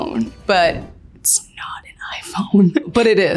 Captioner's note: whispers